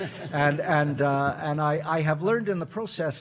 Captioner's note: audience laughing